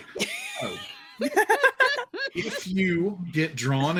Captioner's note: all laughing